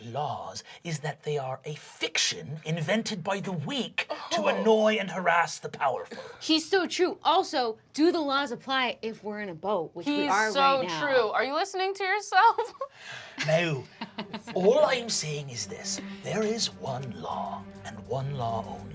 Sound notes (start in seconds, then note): 12.4 laughing